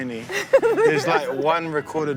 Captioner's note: laughs